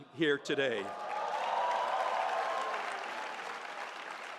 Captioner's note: audience cheers